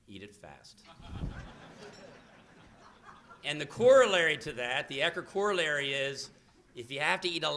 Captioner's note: laughter